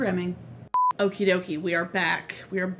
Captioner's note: beep sound